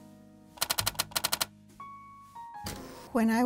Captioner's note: typing